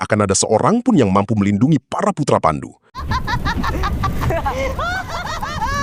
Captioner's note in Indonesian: tertawa